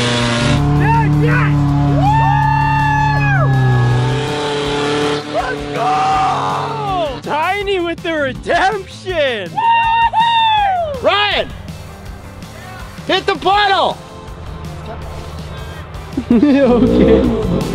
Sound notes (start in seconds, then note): 1.9 cheering; 15.9 laughs